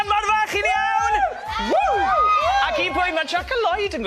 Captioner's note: cheering